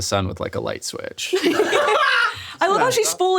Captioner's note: all laughing